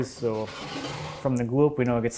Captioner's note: drawer closes lightly scraping